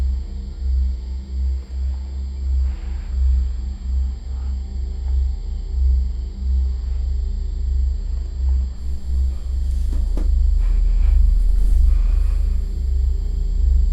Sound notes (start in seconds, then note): 10.2 sound of breathing